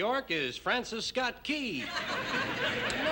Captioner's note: laughter